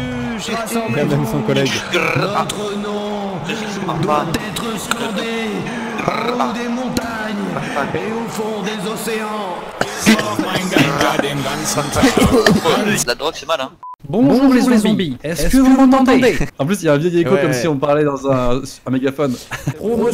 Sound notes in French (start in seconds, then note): 9.6 tousse